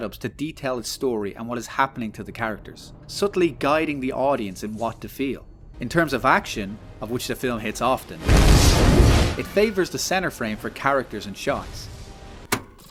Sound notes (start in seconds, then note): 8.2 boom; 11.8 rewind sound; 12.5 click